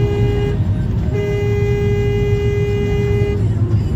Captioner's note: dashcam driver honks